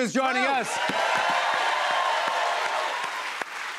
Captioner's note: cheers and applause